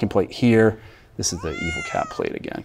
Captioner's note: cat meowing